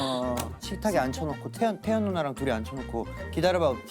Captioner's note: grumbling